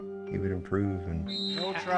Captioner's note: whistle